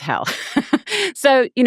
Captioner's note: laughing